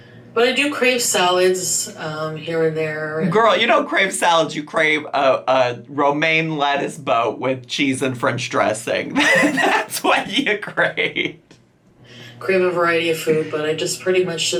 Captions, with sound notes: but I do crave salads here and there. - Girl, you don't crave salads, you crave a romaine lettuce boat with cheese and French dressing. (laughs) That's what you crave. - Crave a variety of fruit but I just pretty much,